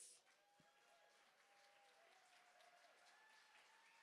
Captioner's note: cheering